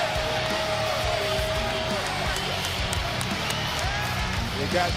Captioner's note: cheers and applause